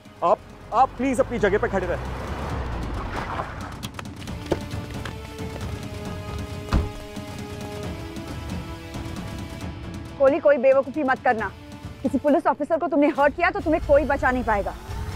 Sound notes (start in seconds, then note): 1.7 car arriving; 4.3 car door opens; 6.5 car door closes